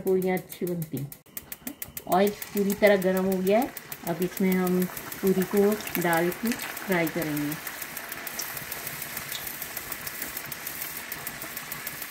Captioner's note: bubbles